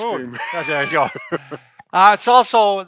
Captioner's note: laughing